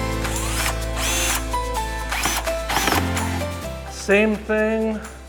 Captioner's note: drill whirring; upbeat music